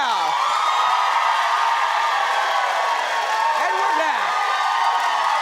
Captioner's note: audience cheers